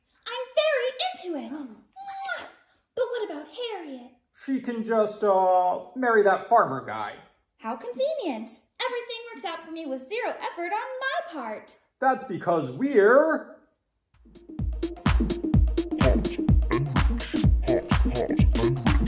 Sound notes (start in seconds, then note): 1.6 Knightley gasps; 1.9 kissing sounds